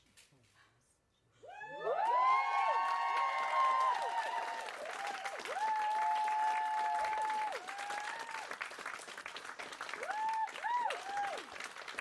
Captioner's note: applause